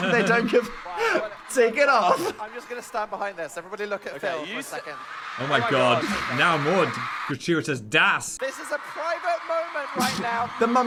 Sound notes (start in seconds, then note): 4.9 audience cheering